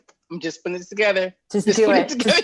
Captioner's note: laughs